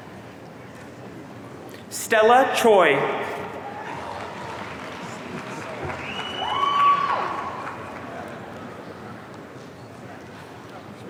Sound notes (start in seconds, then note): 6.2 audience cheering